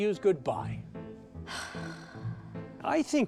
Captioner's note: huffs